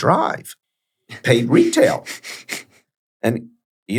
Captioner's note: chuckles